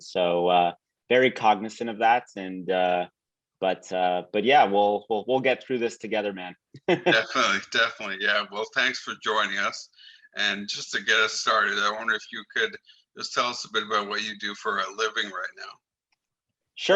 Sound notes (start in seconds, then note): 6.8 laughs lightly